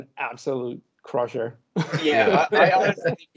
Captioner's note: laughing